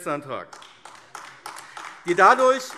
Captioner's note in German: Beifall AfD